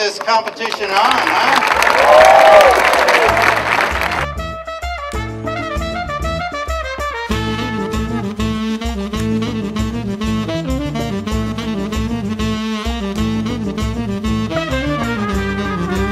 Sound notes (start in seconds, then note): 0.0 sound of applause, cheering